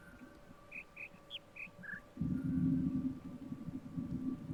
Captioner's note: bird chirps five notes